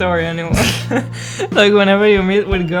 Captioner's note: shameful giggle